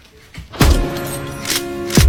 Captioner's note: gunshot noise